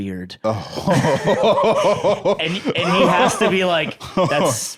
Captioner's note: laughs